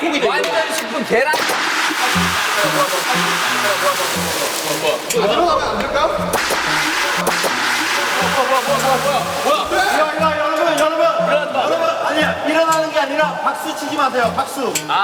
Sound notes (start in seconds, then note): 5.1 juga tepuk tangan